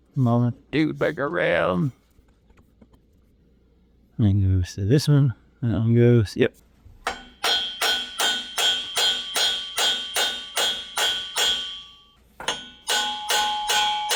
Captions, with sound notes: Moment, dude, back around. gonna go say this one. And I'm gonna go, yep. (Clanging)